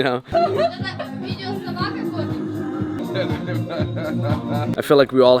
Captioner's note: girls and guy speaking faintly and laughing; laughs